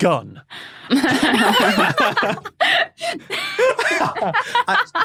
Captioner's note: guests laughing